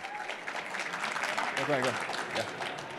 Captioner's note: applause